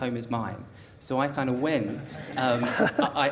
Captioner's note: audience laughter